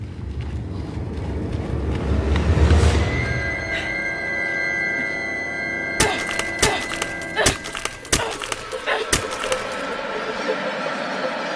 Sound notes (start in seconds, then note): 0.6 ominous music; 6.0 sparks crackling; 6.0 bat thudding